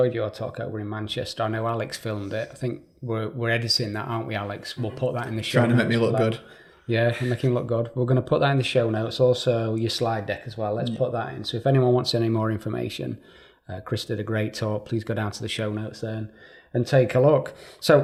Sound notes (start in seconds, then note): 7.0 chuckling